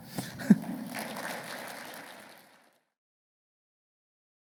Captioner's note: chuckles; audience applauding